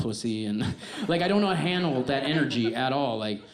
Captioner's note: audience laughs